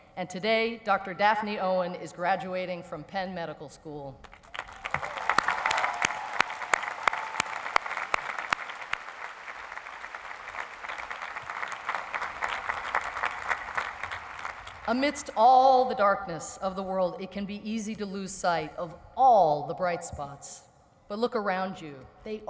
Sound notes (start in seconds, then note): 4.8 applause